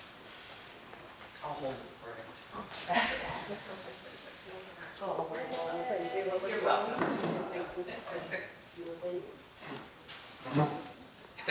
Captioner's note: people chattering